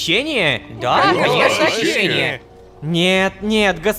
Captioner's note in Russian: Согласие толпы